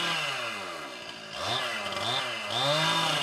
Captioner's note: chainsaw noises